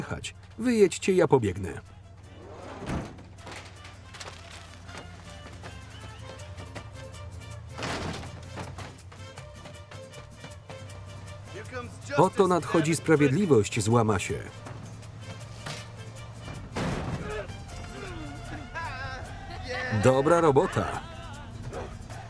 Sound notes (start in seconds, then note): 17.8 grunting; 20.0 laughing